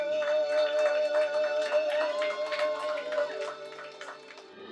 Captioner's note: audience cheering